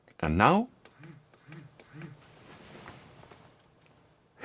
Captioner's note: buzzing sound